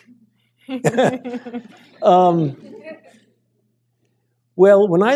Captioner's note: laughter